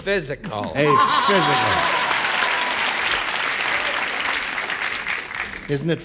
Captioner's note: cheers and applause